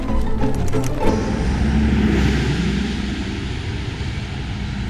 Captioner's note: engine revs